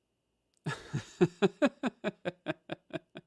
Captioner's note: laughs